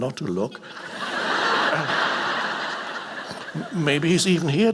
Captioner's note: audience laughing